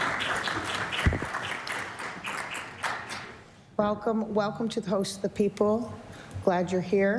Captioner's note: applause